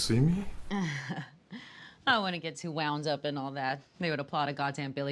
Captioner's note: chuckles